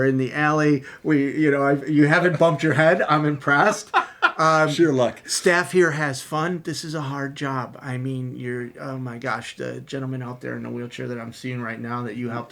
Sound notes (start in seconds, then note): 4.8 laughing and chuckling